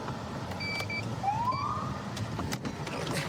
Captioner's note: siren chirps